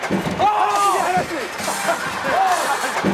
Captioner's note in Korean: 덜컹